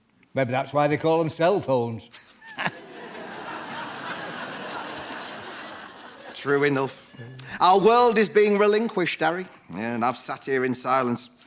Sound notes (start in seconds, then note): 2.4 George laughs